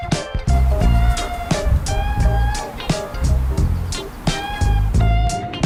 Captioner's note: heart pounding